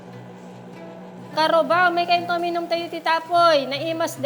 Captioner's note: foreign language